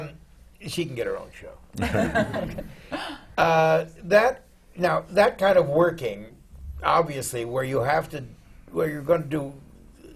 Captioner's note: laughter